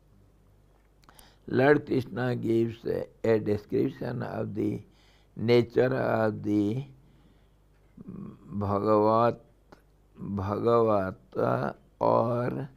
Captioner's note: sanskrit